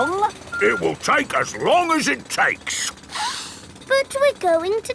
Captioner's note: sniffs